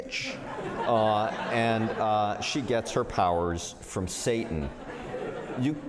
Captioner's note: laughter